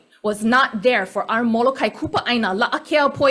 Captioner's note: speaks foreign language